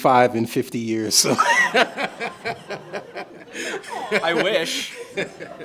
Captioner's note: all laughing